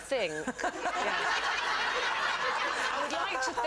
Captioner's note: audience laughs